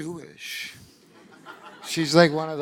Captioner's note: audience laughing